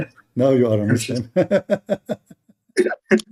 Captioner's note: Ketawa